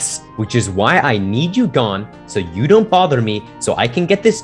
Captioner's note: none